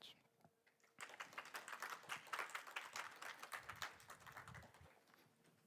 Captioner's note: applause